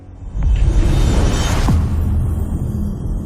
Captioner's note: dramatic sound